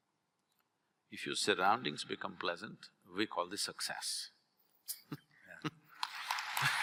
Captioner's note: applause